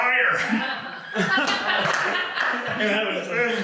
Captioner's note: all laugh